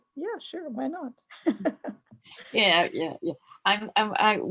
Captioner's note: laughs